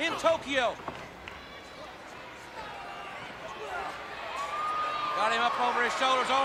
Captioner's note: crowd cheering